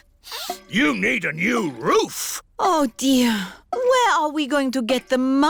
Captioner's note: sniffs